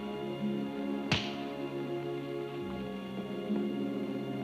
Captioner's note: hand smacks